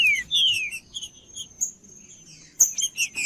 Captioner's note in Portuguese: trinca ferro cantando